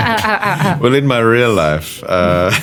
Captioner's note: guy laughs